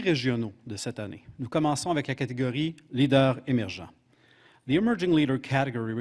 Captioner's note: speaking French